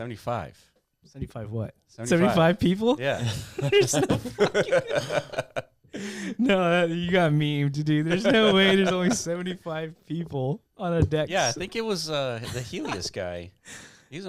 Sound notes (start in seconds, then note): 3.1 laughs